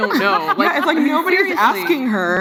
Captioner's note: laughs